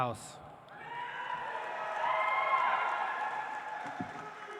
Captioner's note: audience applauds